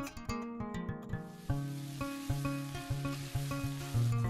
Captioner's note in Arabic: طعام أزيز